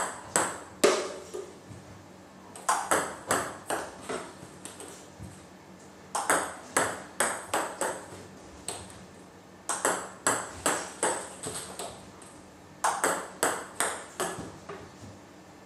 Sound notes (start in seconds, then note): 3.0 ball ping pong hitting continues; 12.8 ball ping pong hitting continues